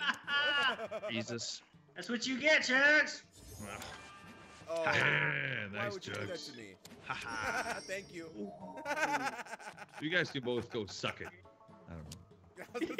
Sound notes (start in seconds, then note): 0.0 laugh; 4.4 laugh; 8.6 laugh